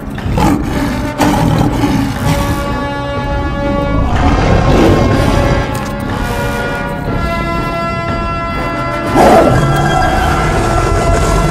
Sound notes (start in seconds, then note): 1.5 Saber Tooth growls - disoriented